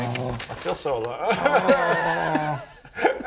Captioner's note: sobs; boo hoo